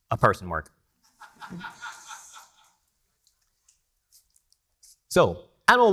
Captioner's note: attendee laughing